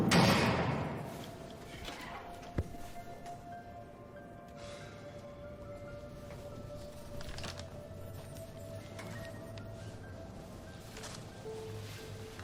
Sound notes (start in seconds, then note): 4.5 sighing